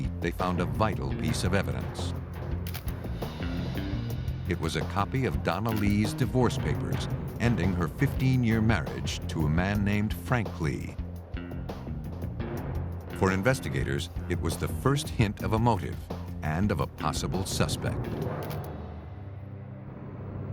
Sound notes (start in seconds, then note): 2.6 click; 18.4 click